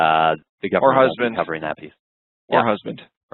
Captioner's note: voice muffled